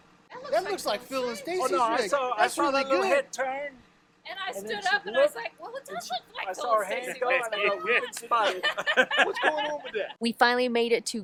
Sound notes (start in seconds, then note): 9.6 men laughing